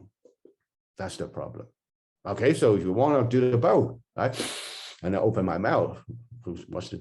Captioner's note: breathes in